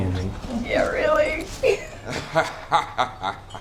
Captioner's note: laughs; man laughing